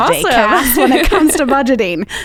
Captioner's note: laughs